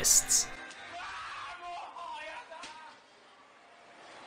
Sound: japanese man yelling in defeat

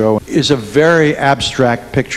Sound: none

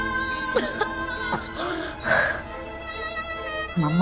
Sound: coughs

